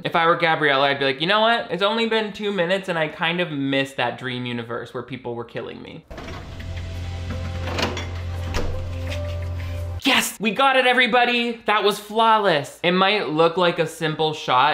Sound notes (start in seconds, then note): 6.1 gentle music; 7.2 fridge door banging